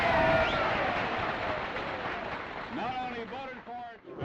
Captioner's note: cheers, whistles, & applause